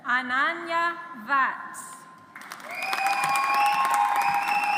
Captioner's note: audience applauds